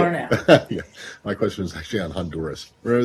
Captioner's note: laughter